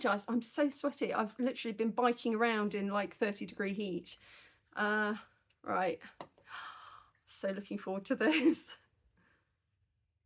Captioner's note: gasp